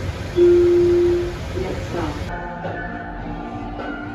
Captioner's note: intercom